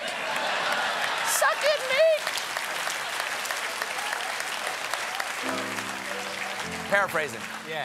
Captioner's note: cheers and applause; applause